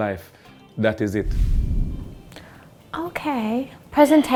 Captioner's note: logo whooshing